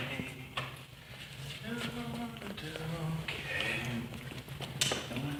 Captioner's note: continued humming